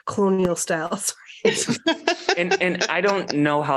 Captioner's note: laughter